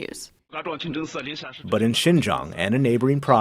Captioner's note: speaking foreign language